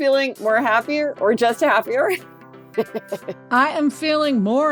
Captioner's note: laughs